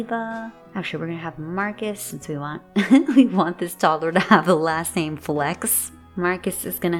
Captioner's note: giggle